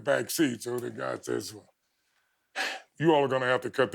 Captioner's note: exhales